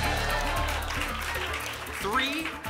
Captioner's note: applause and cheering